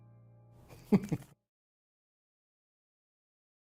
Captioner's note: laughs